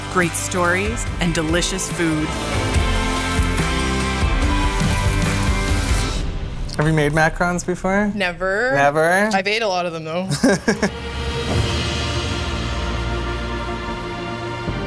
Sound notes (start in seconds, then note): 10.2 uplifting music; 10.2 he laughs